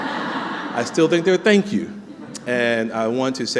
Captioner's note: laughter